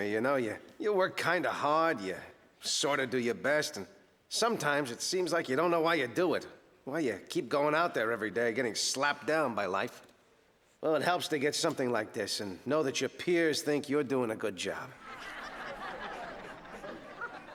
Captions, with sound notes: You know, you work kind of hard, you sort of do your best and... sometimes it seems like you don't know why you do it... why you keep going out there every day, getting slapped down by life. Well, it helps to get something like this and know that your peers think you're doing a good job. (audience laughing)